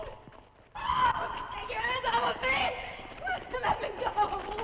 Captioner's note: screams